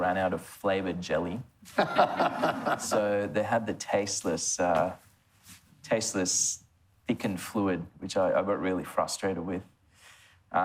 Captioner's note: laughs